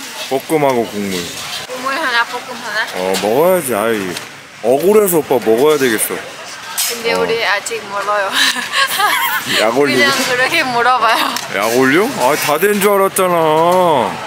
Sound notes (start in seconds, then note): 8.3 laughing